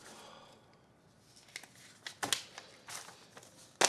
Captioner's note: Jimmy sighs